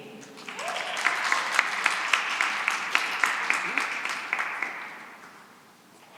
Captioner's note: cheering and applause